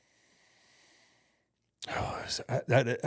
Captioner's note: Undertaker breathes deeply